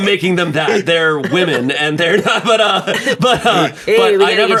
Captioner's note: laughs